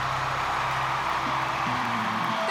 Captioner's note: cheers and applause